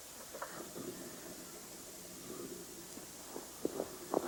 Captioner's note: car starts